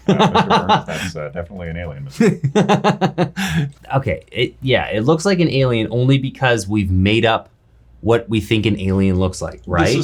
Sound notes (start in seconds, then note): 0.0 laughing; 2.0 laughs